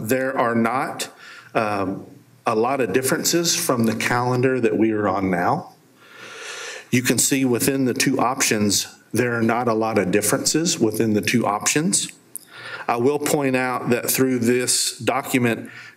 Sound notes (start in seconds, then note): none